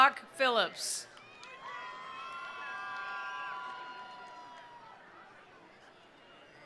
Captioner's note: attendees cheering; attendees applauding